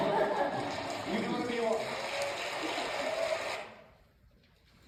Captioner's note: laughter; applause